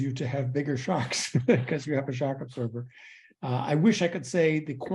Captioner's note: laugh